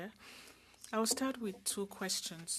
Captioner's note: speaking French